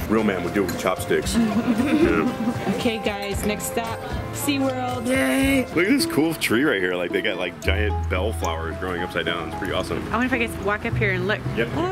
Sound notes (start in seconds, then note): 1.2 giggling